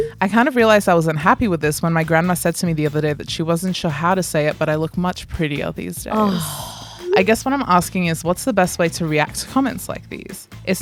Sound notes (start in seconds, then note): 6.1 groans